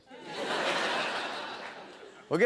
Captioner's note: laughter